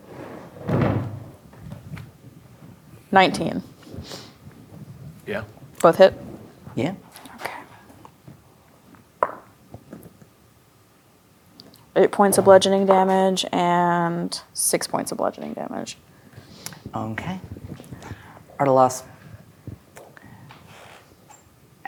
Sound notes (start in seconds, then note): 0.0 chair scraping floor; 8.9 dice rolling; 13.0 dice rolling